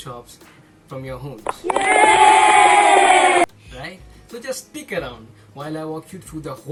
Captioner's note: cheers